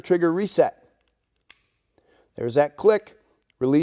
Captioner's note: gun clicks